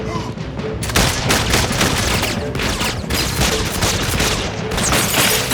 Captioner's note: gasps; gunfire